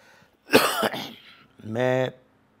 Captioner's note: coughs